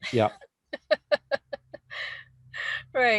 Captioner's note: laughing